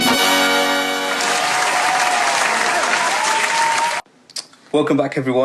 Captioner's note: applause